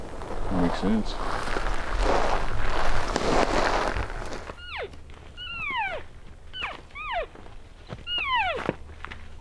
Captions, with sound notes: That makes sense. (Caller cow calling)